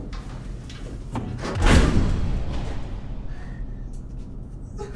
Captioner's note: boom